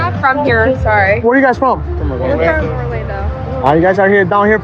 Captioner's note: none